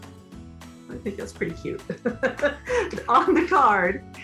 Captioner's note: laughs